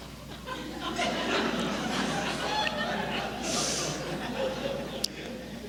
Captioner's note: laughter